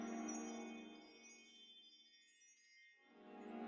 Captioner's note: none